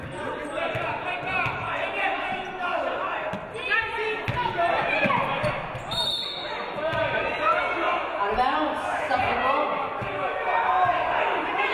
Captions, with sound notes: (referee blows whistle) Out of bonds, Suffolk ball.